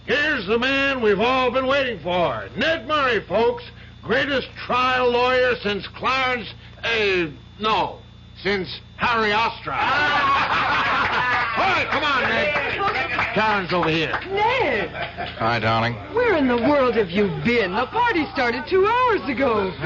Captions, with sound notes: Here's the man we've all been waiting for, Ned Murray, folks. Greatest trial lawyer since Clarence A. No, since Harry Osterhöm. [laughter] All right, come on, Ned. Karen's over here. Ned! Hi, darling. Where in the world have you been? A party started two hours ago.